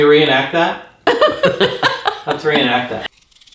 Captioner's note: laughing